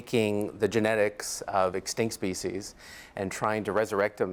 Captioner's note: none